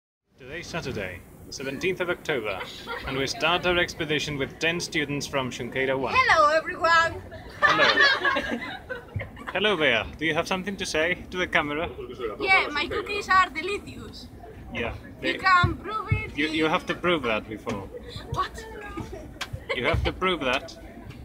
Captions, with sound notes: Today's Saturday. 17th October. And we start our expedition with 10 students from Xunqueira 1. Hello everyone! (all laugh) Hello, Bea. Something to say to the camera? -Yeah, my cookies are delicious. Yep. -You can prove it... You have to prove that before. -What? You'll have to prove that.